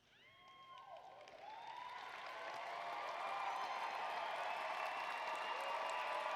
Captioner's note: applause